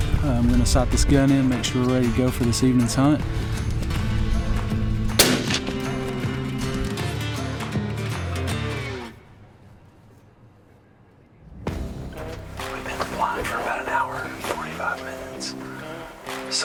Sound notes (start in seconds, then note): 5.2 shot firing; 7.1 rustic country music